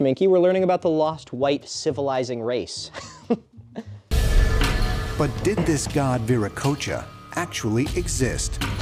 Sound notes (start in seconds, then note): 2.9 defeated giggle